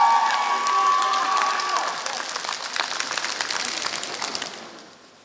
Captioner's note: applause